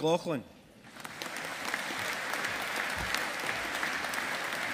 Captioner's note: audience applauding